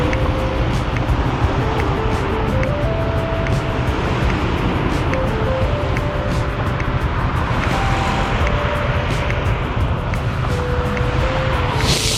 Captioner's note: wind Blowing